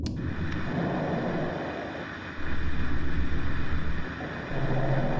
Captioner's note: static plays